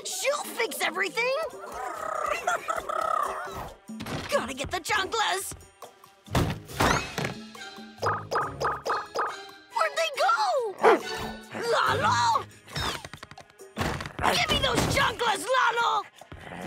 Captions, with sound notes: She'll fix everything! Gotta get the chanclas! Where'd they go?! [barking] Lalo?! Give me those chanclas, Lalo!